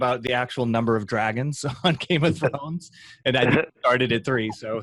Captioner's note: laughs